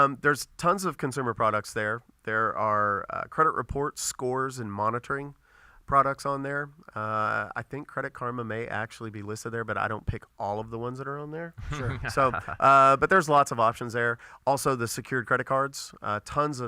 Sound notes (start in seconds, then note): 11.6 laughs